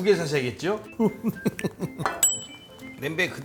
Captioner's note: hehehehehe